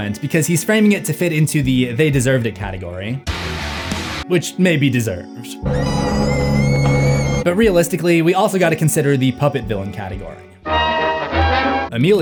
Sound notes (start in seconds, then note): 5.7 Sam screaming